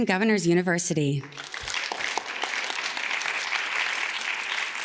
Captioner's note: audience claps